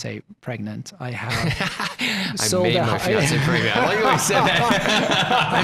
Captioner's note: laughing together and chattering